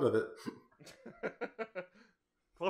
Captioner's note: laughing